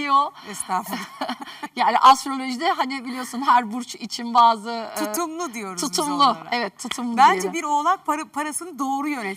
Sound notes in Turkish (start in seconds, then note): 0.9 kahkaha